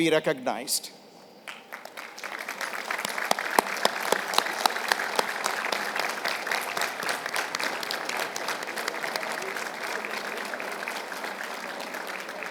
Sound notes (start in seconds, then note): 1.4 applause